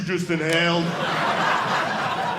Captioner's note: audience laughing